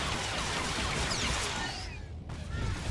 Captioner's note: gun firing